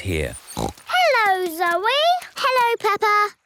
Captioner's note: snorts